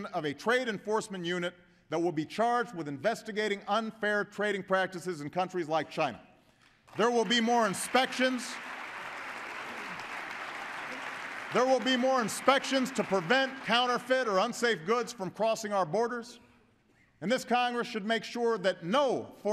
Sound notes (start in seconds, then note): 6.7 applause